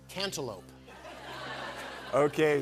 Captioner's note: laughter